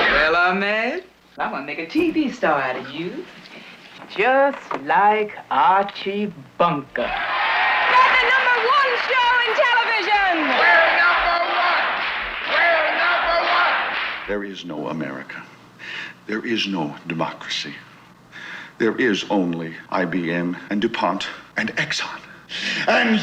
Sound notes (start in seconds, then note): 0.0 guns firing; 7.2 audience shouting; 10.9 audience chanting